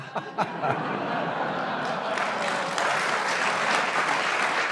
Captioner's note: audience laughs and applauds